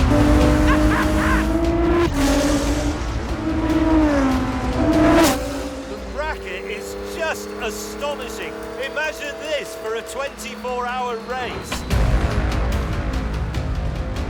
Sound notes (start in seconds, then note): 0.3 chuckling; 3.2 engine roaring